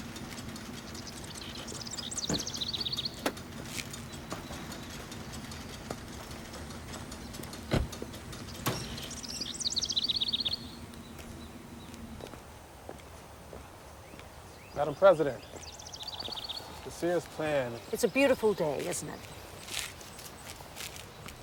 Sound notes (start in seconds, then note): 7.4 birds chirping; 7.6 car door closes